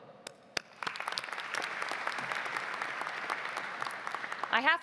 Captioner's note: audience clapping